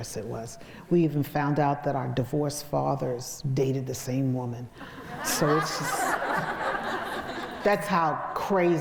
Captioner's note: crowd laughs